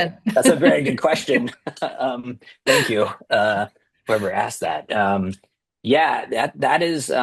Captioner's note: laughter